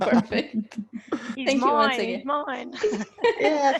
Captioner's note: laughs